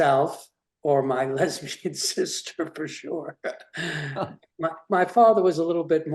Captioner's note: chuckles